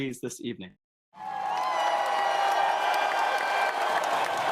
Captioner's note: crowd cheers